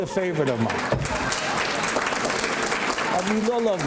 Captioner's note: applause